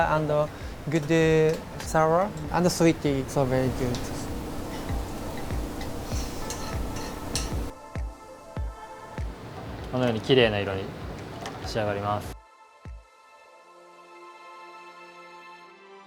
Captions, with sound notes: and the good sour. And the sweet is all very good. (soft upbeat music) (speaks in foreign language) (soft upbeat music)